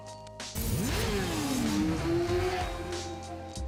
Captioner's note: engine roaring